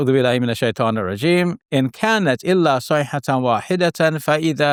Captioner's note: speaking in Arabic